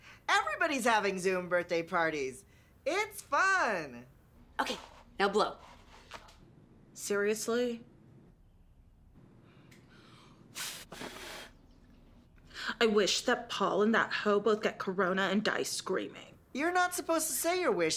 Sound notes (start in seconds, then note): 10.5 blows Air